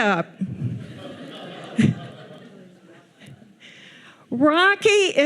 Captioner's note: audience laughing